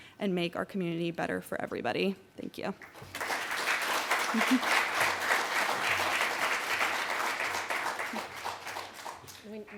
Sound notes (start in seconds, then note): 2.8 applause